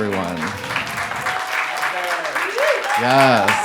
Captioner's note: audience applauding